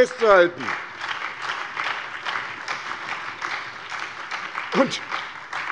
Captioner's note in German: Beifall bei der SPD, der FDP und der LINKEN